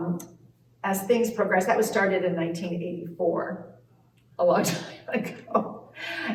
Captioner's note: laughs